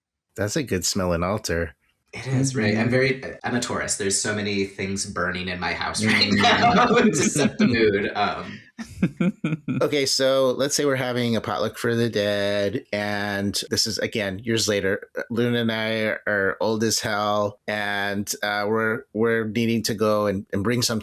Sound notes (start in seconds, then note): 6.0 laughing